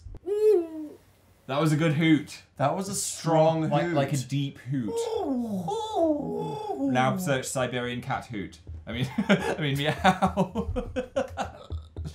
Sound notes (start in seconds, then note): 0.3 owl hoots; 4.9 take turns hooting; 9.0 laughs